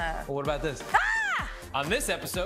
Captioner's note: screams